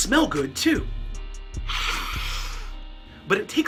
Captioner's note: sniff